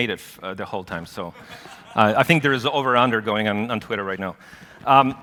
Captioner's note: laughter